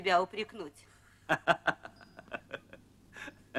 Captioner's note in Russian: смеется